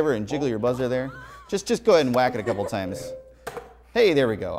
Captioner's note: laughs